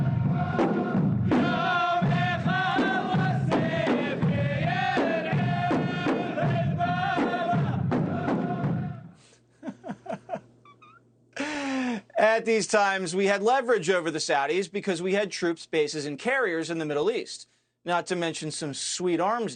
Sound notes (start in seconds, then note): 13.0 laughs